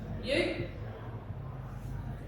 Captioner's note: none